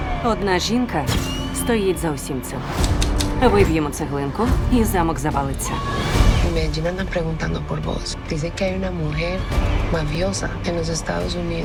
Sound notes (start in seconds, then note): 6.0 in Spanish